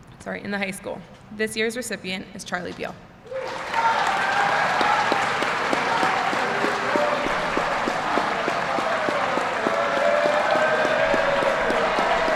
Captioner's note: applause